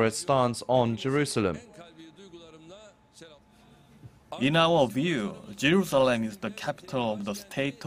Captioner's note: Turkish